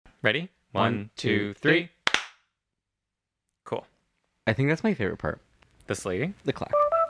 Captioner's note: clap